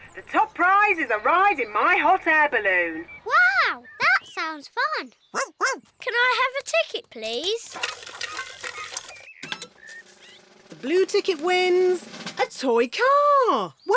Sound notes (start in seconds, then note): 5.3 barks